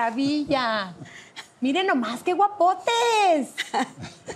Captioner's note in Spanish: Ríe